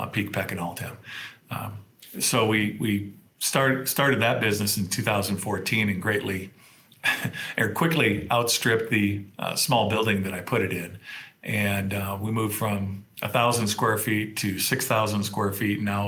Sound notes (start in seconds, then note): 7.0 chuckles